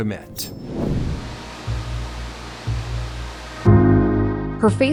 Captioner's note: static hissing